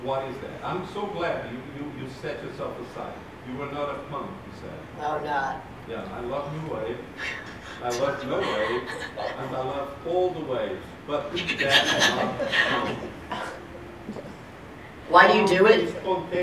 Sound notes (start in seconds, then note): 11.3 laughing